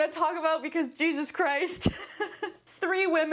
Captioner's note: laughs